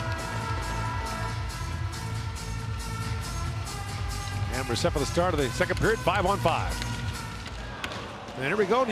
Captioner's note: crowd din